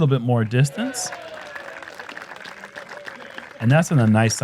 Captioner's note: applause